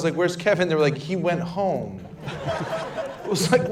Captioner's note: laughter